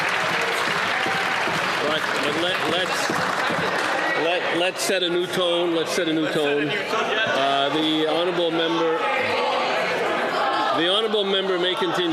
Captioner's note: some Applause